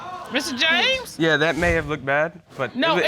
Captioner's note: audience exclaiming